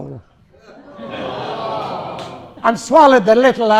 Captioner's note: audience shout 'ohhhh'